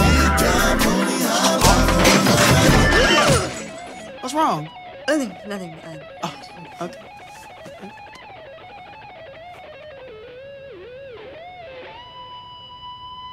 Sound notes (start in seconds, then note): 2.7 gasps